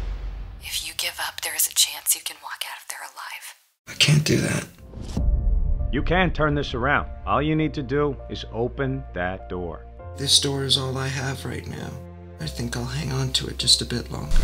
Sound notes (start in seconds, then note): 0.2 women over the phone; 5.5 police voice